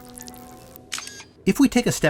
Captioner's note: electronic noise